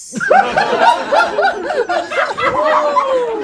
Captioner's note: group laughs